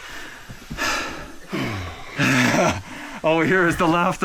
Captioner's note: breathing